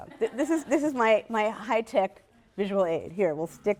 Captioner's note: laughter